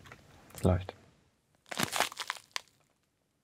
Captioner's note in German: Knacken